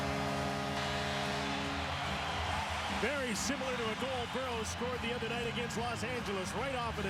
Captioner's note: cheers and applause